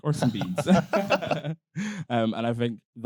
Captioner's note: both laughing